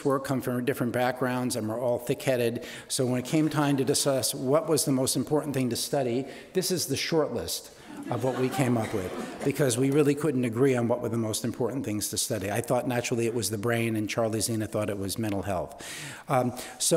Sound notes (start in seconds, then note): 7.9 audience laughing